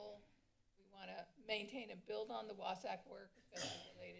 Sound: cough

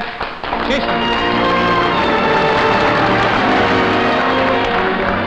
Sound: audience applauding; romantic music

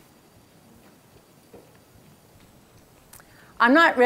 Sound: blank screen in silence

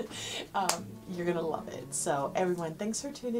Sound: hands clapping

